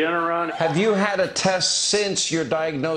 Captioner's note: laughter